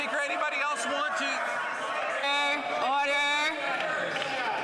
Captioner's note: some Applause